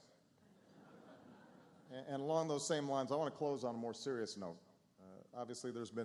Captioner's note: laughter